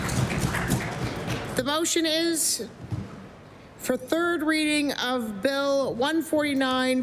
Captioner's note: applause